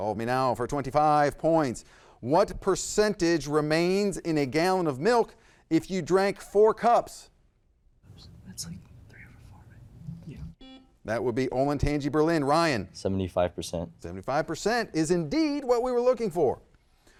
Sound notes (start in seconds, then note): 10.5 buzzer blaring